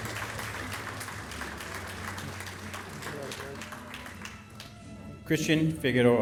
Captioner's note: applause